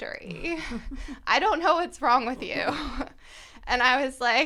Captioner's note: laughter